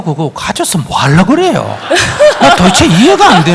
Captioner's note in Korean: 청중 웃음